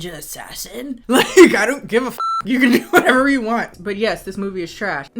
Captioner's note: beep